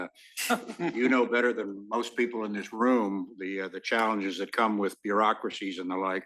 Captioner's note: laugh